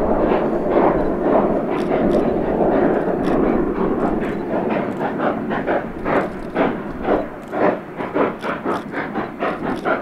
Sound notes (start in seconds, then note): 0.7 locomotives steady chugging; 0.7 rotary chugging